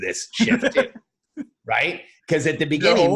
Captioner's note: laughs